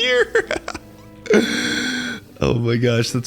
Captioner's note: laughing